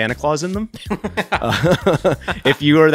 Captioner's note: laughing